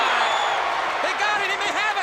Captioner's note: audience cheers